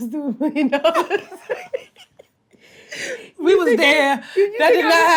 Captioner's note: laughs